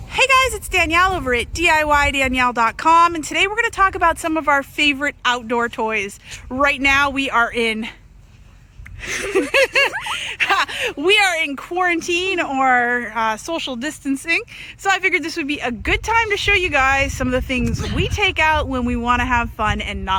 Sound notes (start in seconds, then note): 9.0 laughs